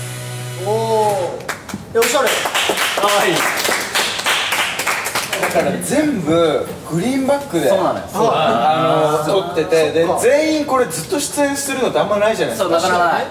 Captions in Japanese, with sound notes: おぉ～ （拍手） 可愛い （拍手） そうなのよ あっ 撮ってて そう なかなかない 確かにね